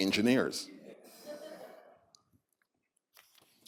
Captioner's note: laughter